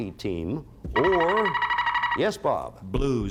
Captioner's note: buzzer sounds